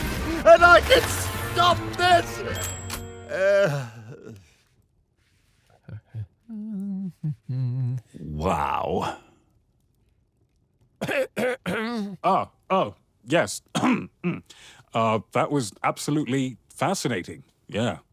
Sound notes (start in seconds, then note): 2.4 Mothnapper stammers; 2.5 ding!; 6.5 Blockson hums; 11.0 Blockson coughs pointedly; 11.0 clears throat